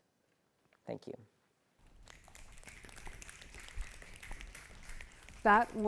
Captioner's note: applause